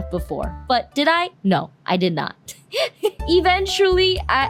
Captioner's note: laugh